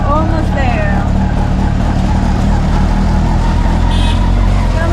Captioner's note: rickshaw engine